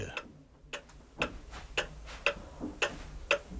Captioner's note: loud ticking of the pendulum